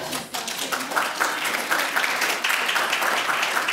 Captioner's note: group applauding